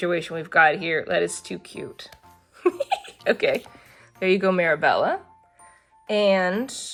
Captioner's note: laughs